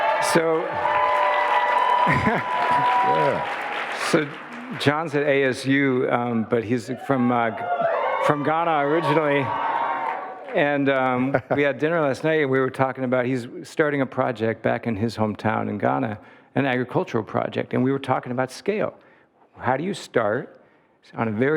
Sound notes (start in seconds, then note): 0.0 audience applauding and cheering; 5.5 audience cheering